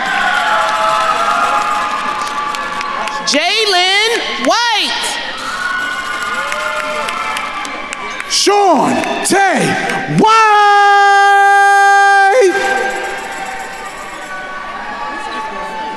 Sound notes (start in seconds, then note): 0.1 attendees cheering and applauding; 5.4 attendees cheering; 12.8 attendees cheering